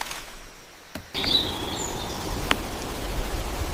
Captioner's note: woodpecker drumming